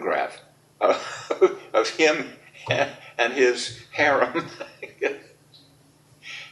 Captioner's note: laughs